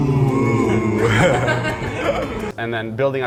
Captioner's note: all laughing